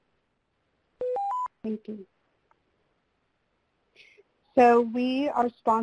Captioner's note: electronic beeping